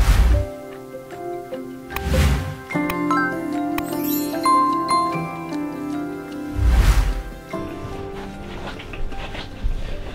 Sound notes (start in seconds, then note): 0.3 whooshing; 2.0 clicking; 2.9 light beep; 2.9 bell rings; 3.0 jingling chimes; 6.6 whooshing